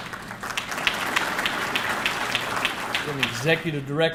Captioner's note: audience clapping